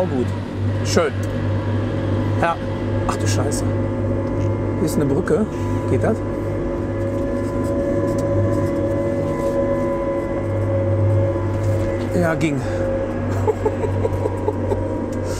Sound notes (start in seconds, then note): 13.3 laughs